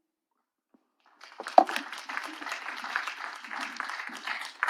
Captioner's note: audience clapping